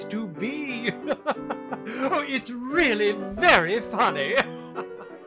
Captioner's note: chuckles